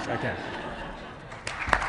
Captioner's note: laughter and applause